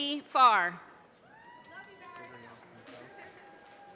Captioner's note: audience cheers and applause